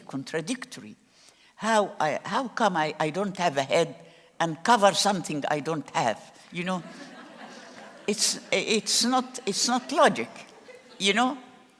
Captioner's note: laugh